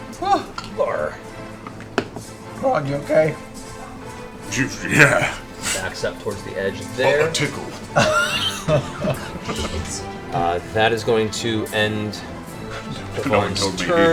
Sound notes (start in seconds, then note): 5.1 scoffs